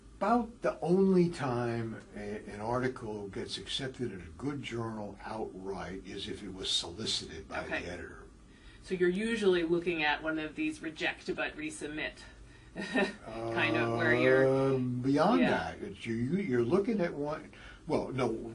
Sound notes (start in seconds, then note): 12.8 laugh